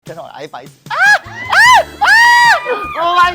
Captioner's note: screams